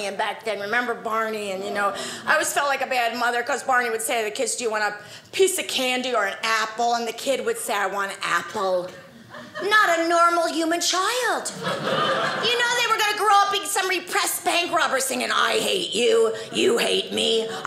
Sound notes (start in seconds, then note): 11.5 audience laughing